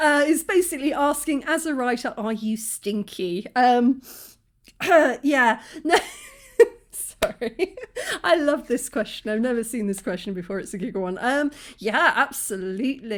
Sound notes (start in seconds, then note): 4.0 sniff